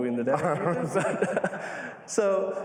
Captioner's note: laughter